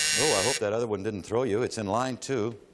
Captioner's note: buzz